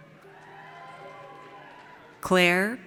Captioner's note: audience cheers